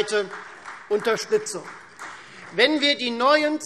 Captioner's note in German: Beifall